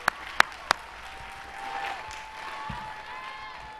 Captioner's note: applause